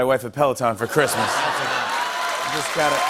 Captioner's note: laughter, cheers and applause